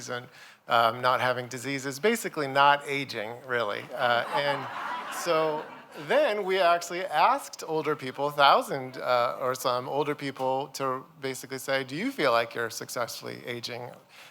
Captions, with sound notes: and not having diseases, basically not aging really. [LAUGHTER] Then we actually asked older people, 1,000 or some older people to basically say, do you feel like you're successfully aging?